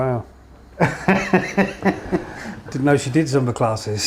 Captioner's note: laughter